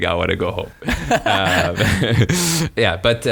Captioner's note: laughing